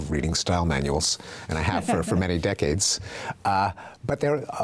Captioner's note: laughing